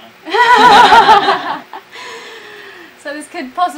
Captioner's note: both laugh